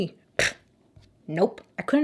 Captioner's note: blows raspberries